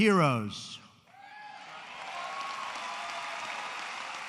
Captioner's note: applause